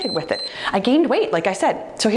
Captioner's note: timer beeps